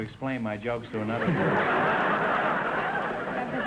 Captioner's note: audience laughter